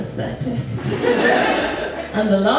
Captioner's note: audience Laughs